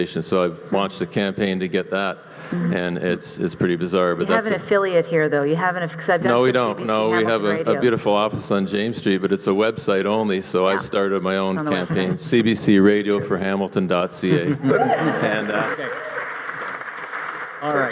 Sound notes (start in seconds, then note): 6.3 voiceover; 14.6 audience applauding